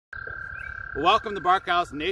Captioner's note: toads trilling